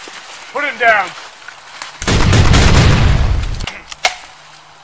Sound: gun fire

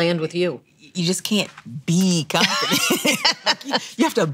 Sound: laughs

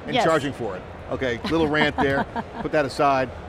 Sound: chuckles

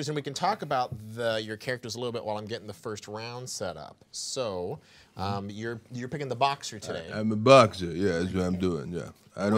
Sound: none

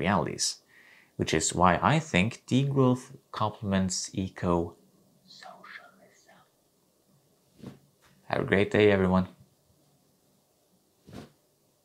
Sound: whisper

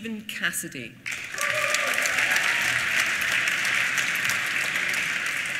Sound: applause

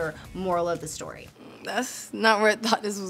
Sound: speech bubble swishing; upbeat music playing

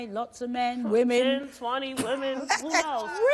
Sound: laughs

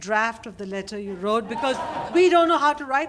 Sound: laughter

